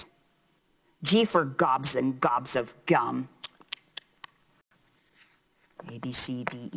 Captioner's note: lips puckering